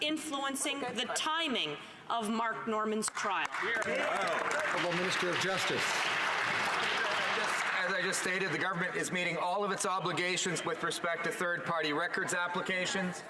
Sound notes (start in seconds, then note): 6.8 some Applause